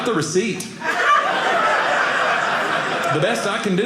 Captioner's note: audience laughing